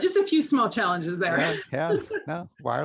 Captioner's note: laughs